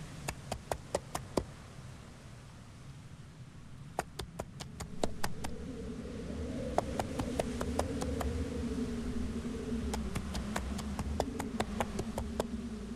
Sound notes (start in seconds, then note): 0.1 footsteps; 3.9 footsteps; 8.4 wind howling; 9.9 footsteps